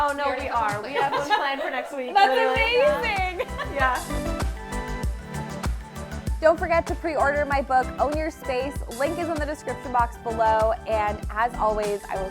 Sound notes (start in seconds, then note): 3.2 laughing; 5.1 upbeat music